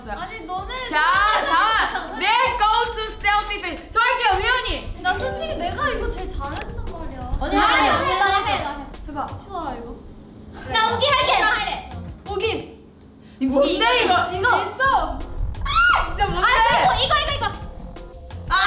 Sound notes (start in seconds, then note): 0.0 speaks in Korean